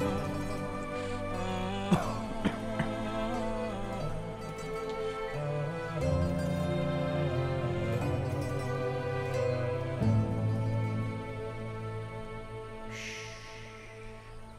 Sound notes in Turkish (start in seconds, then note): 1.8 Öksürük sesi; 3.6 Müzik - Yaylılar ve dombra